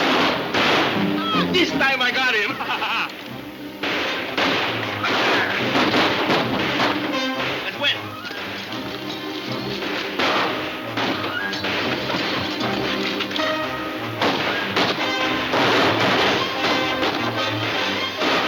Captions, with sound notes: This time I got him. (guns firing) Let's go in. (guns firing)